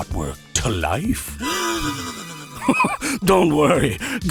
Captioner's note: inhale